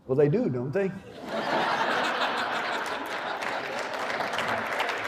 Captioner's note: laughter and applause